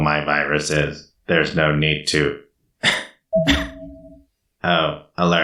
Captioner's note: cough cough